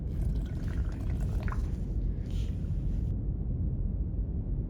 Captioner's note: breathes